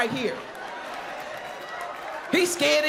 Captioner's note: crowd laughs